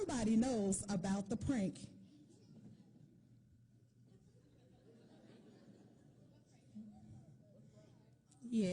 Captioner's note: laughter